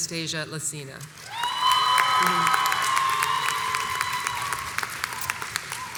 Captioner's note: crowd cheers and applauds